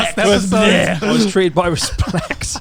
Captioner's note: groaning